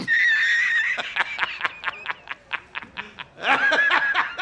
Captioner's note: Jonah Jameson laughs